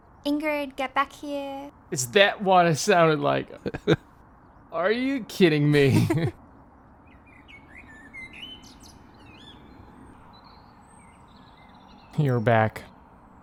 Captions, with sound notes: Ingrid get back here! It's that what I sounded like? Are you kidding me! [Bird singing] You're back